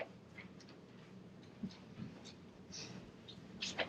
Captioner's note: none